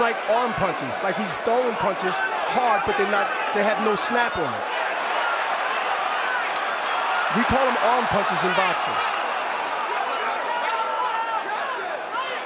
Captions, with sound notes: They seem like arm punches. Like, he's throwing punches hard, but they're not-- they have no snap on 'em. [cheers and applause] We call 'em arm punches in boxing.